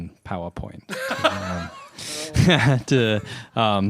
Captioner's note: laughter